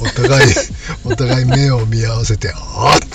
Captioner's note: laughs